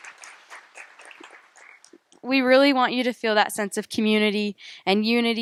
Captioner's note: applause